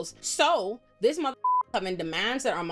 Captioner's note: beep